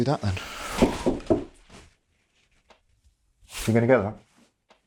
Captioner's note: knocking on door